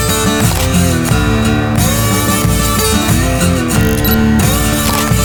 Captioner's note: camera clicking